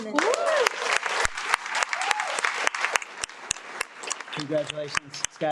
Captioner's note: audience cheers and applauds